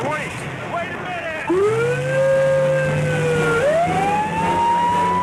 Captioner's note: siren wailing